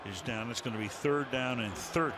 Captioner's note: crowd chanting